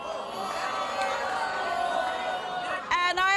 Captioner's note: audience boos